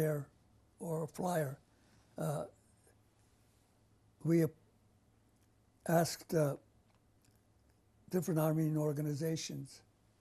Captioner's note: pauses for 3 seconds